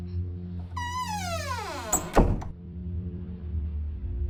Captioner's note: door creaking and then shutting